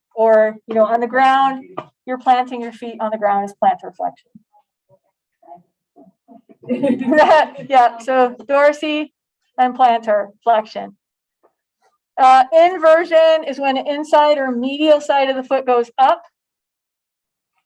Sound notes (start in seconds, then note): 6.4 laughter